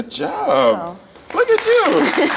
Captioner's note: audience applauds